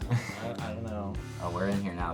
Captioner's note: chuckles